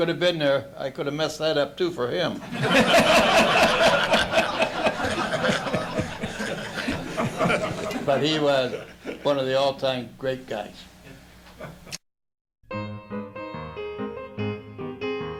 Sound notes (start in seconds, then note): 2.4 laughter